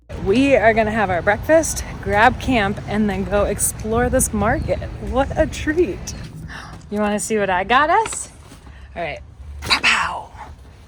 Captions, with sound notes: We are gonna have our breakfast, grab Camp, and then go explore this market. What a treat. (gasps) You wanna see what I got us? All right, pow pow!